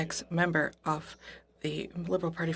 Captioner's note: speaking French